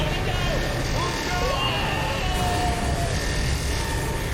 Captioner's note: scientist_screams.wav